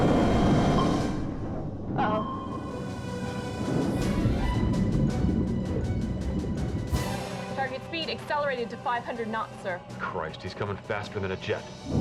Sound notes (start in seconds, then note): 0.0 sonar pinging